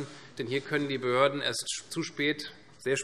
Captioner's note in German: none